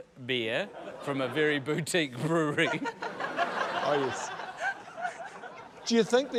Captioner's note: laughter